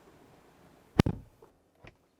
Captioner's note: door Thud